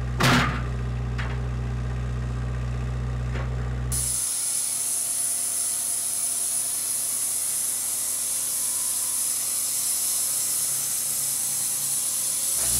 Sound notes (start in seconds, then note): 0.0 forklift engine roaring; 4.4 saw revving